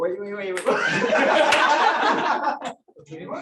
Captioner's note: laughter